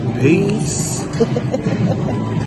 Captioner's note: laughs